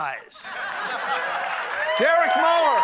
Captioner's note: crowd laughs